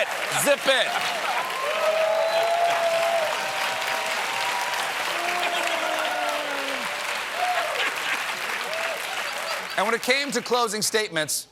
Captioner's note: cheers and applause